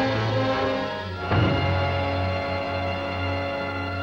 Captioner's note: thud